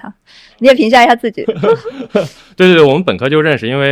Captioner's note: 哈哈哈